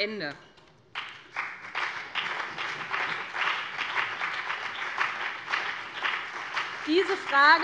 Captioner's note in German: Beifall BÜNDNIS 90/DIE GRÜNEN und vereinzelt CDU